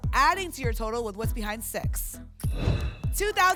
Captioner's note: whoosh